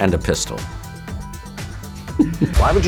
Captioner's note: giggles